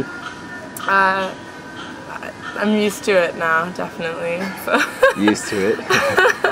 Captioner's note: laughing